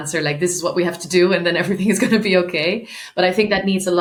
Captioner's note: chuckling